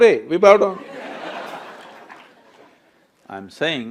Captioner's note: laughter/Applause